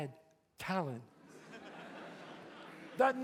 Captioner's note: audience laughs